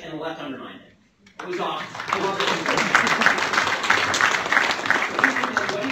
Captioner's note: applause